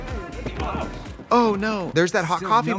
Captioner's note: dance music; both grunt